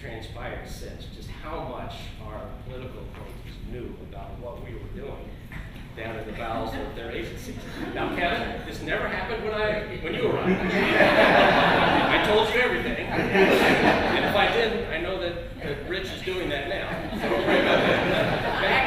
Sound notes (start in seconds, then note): 10.5 laughter; 13.0 laughter continues